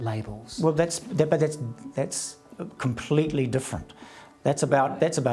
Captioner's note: stammers